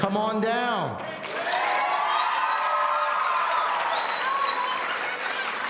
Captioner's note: audience cheering